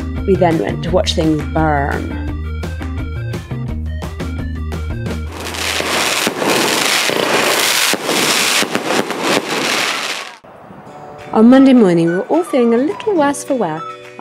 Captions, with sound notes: We then went to watch things burn. [Firework sounds] On Monday morning, we were all feeling a little worse for wear,